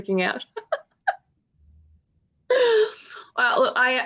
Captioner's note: woman laughing